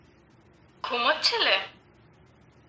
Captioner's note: voice on the phone